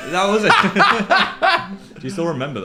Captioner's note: laughs